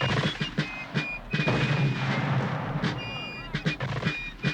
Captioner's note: mortar fire booming